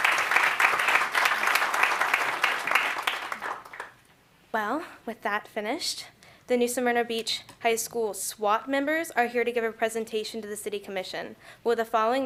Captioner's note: applause